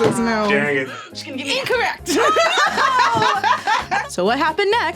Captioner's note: laughs